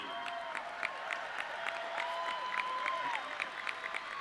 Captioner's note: audience cheering